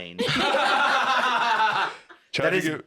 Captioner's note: all laughing